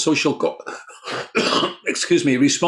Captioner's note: coughs